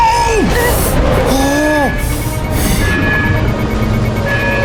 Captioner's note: alarm beeping